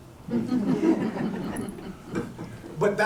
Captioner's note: laughter